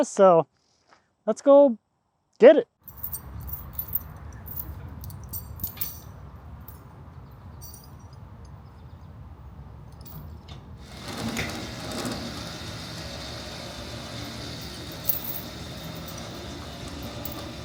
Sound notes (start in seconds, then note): 2.8 chain clinking; 10.0 crane rumbling